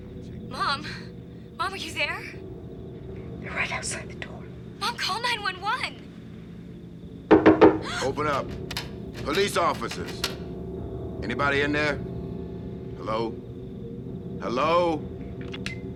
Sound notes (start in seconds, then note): 7.3 knocking on door